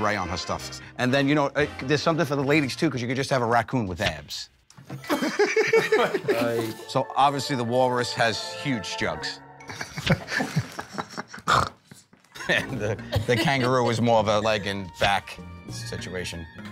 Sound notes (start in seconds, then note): 5.0 laughter; 9.6 laughter; 11.3 snorts